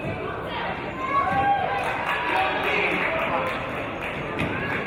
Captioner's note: applause